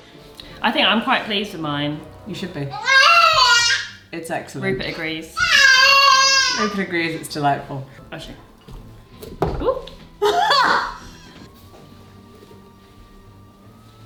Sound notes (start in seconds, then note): 3.2 shouts; 5.6 shouts; 10.2 laughs